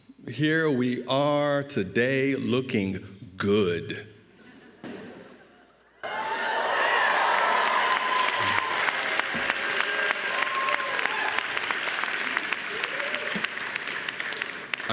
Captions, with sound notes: Here we are today looking good. (audience cheering)